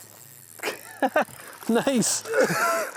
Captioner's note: laughs